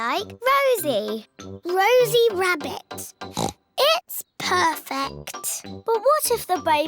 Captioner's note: oinks